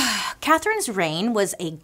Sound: sighs

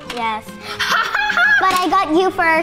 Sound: laughter

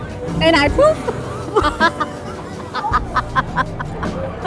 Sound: hearty laughing

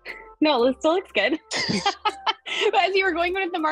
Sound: both laughing

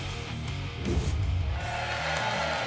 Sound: whoosh; applause and cheering

